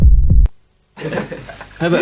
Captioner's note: laughter